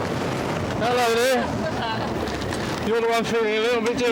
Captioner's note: laughs